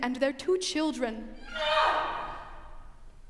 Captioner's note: screams offstage